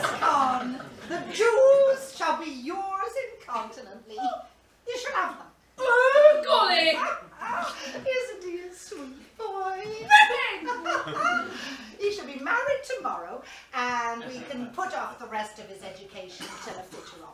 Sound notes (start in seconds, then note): 7.2 laughs